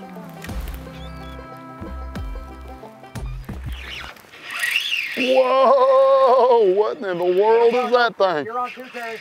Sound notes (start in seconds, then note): 3.6 reel spinning